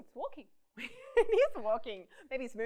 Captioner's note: laughs